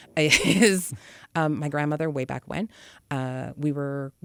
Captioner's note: laughs